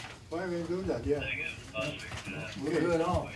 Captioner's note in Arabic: ثرثرة الشرطة اللاسلكية